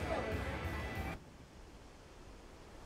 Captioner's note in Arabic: نسيم ناعم